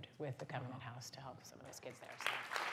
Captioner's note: applause